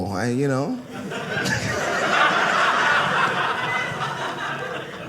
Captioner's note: audience laughing